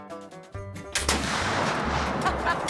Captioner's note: gunshot; laughter